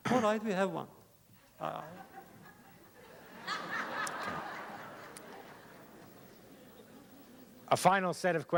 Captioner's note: laughter